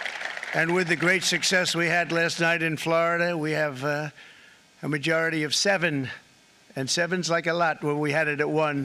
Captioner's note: applause